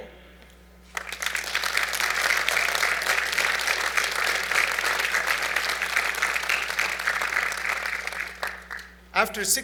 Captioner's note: applause